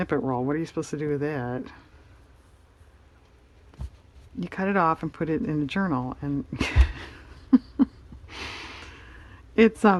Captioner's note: laughs